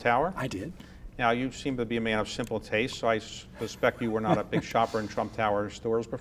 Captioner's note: laughs